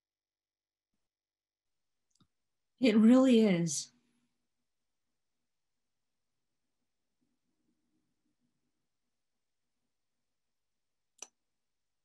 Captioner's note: pause; pause